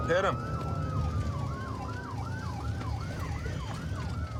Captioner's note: sirens wailing